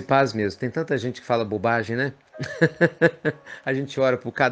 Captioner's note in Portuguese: Risos